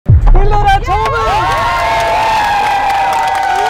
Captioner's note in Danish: jubel